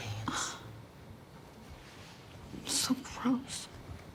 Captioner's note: Ainsley scoffs